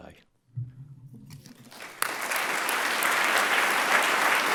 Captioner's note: audience clapping